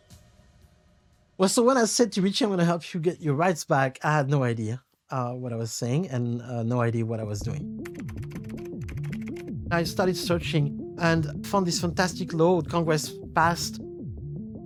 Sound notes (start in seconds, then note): 7.8 typing